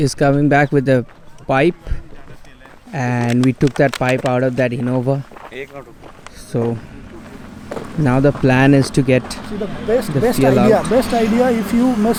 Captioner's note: car